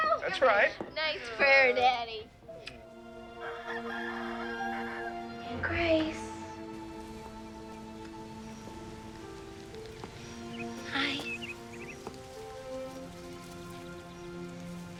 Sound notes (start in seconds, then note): 3.2 rooster crows